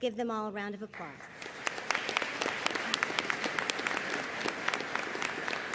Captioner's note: audience applauding